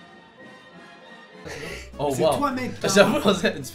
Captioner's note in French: Rires léger